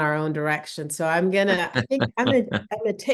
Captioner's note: laughs